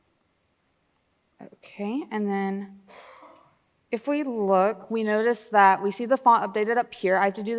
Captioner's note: exhales sharply